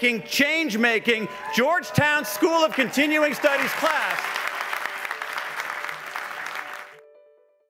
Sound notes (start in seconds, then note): 4.2 applauding